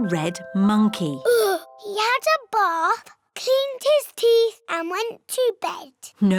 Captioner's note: sighs